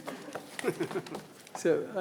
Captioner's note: group chuckling